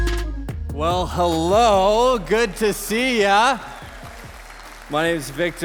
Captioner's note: congregation applauding